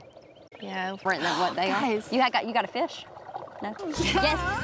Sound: gasps

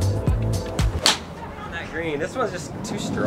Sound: golf club smacking

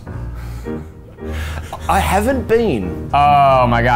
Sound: laughing

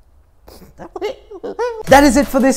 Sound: makes retarded noises

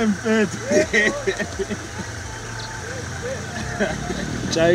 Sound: laughing

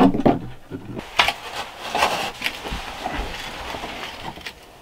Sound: dirt rustling

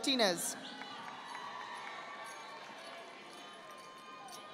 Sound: audience applauding

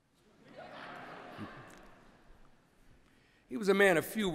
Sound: laughter

